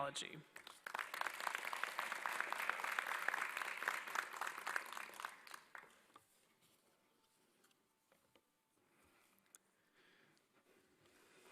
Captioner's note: applause